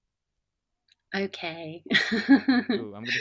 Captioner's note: laughs